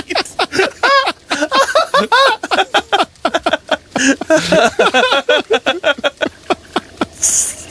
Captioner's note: laughs harder